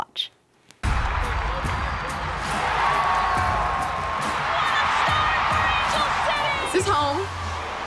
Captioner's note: cheering